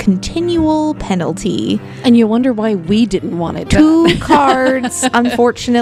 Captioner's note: laughs